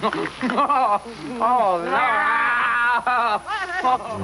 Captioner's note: laughing